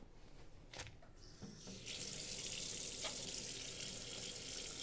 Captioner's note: faucet running